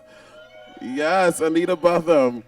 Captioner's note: audience cheers